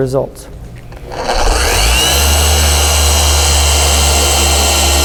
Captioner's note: LHR 75 revving